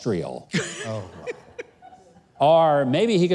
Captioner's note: scattered laughter